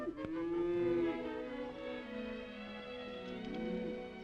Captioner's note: gentle upbeat music; cows mooing; gentle upbeat music